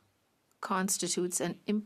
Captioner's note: speaking French